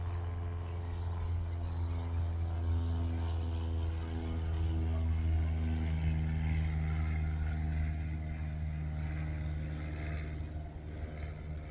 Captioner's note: plane whirring